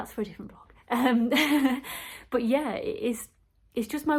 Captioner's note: laughs